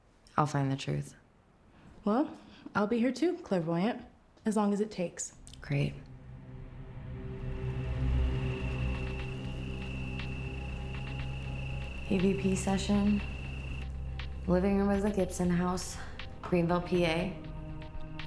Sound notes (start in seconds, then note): 6.5 ominous music; 8.4 crickets chirping